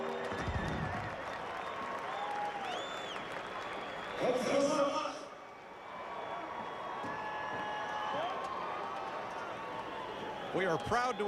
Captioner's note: cheers & applause